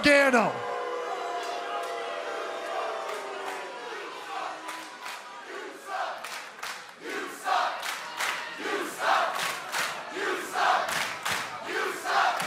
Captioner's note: crowd cheering